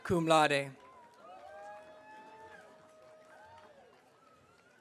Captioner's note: audience cheering